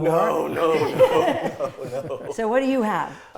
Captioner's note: laughs